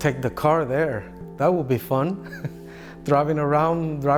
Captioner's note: laughs